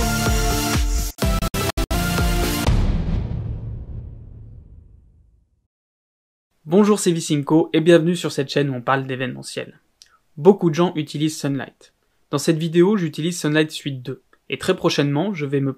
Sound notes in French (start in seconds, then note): 2.6 Boum